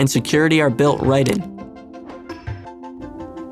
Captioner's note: click